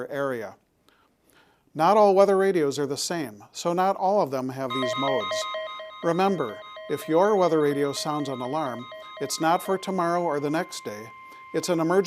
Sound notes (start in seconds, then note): 8.3 alarm sounds